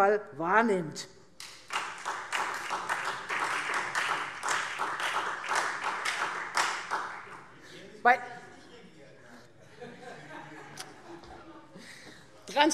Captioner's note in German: Beifall Freie Demokraten und vereinzelt SPD - Zurufe